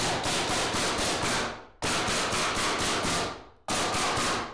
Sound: nails banging loudly

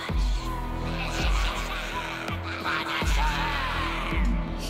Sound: voices murmuring

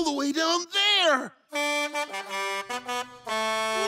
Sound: horn honking

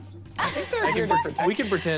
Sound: laughing

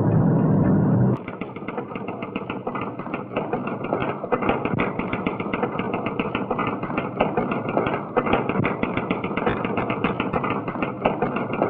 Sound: typewriter keytop clacking

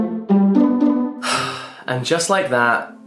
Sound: sighs

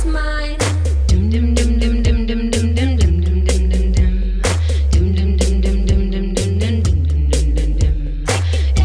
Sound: humming

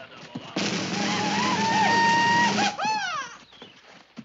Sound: soldiers shout

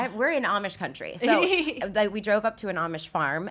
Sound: laughs

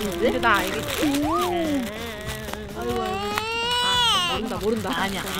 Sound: Jaehee suddenly starts crying

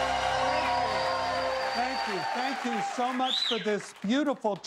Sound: cheers and applause

